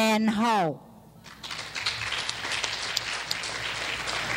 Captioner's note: clapping